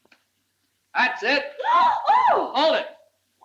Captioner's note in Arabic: يصرخ